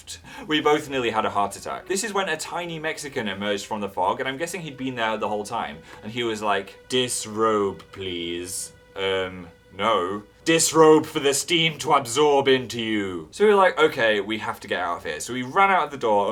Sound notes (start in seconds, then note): 6.9 fog guy voice; 8.7 normal voice; 10.3 fog guy voice